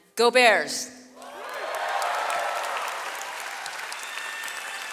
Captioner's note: audience cheers